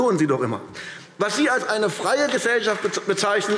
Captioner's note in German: Beifall AfD